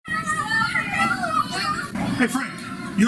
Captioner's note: children excitedly shouting